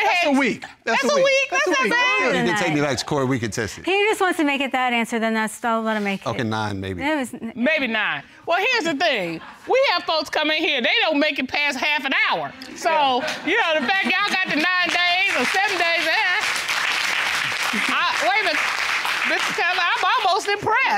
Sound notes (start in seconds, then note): 16.1 audience applauding